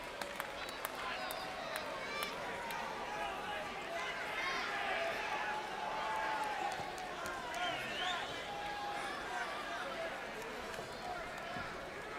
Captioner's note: crowd chatter